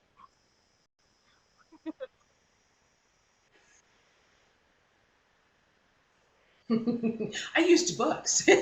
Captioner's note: laughs